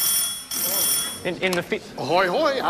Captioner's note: telephone ring